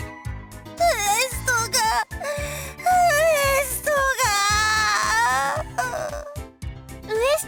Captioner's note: sob; whimper